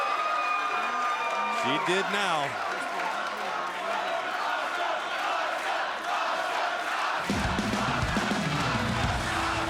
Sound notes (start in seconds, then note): 1.9 crowd chatter; 5.2 crowd cheering